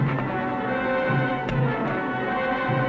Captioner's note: click